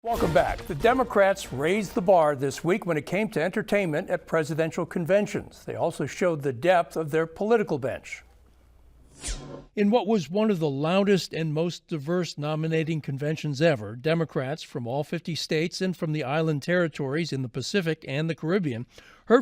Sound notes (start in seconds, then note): 9.2 dramatic ringing